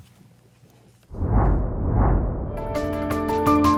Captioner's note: swooshing; energetic music